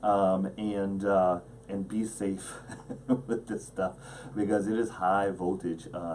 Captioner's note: laughs